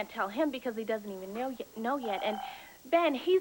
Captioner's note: telephone rin